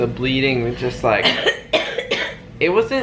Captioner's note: coughing